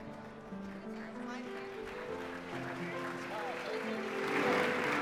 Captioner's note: applause